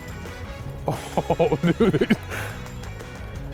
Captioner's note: laughs